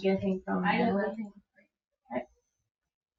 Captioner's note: speaking distantly